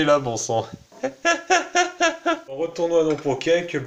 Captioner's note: laughs